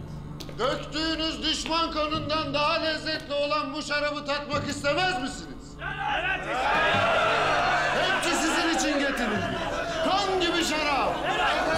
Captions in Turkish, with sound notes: Döktüğünüz düşman kanından daha lezzetli olan bu şarabı tatmak istemez misiniz? (Hep bir ağızdan) Evet, isteriz! Hepsi sizin için getirildi. Kan gibi şarap!